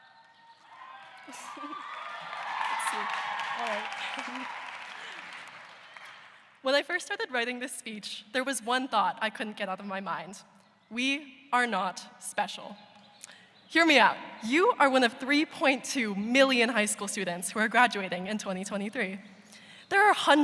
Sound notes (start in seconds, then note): 4.2 cheers and applause